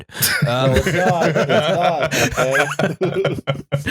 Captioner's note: laughter